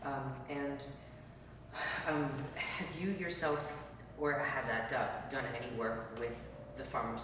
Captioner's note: sigh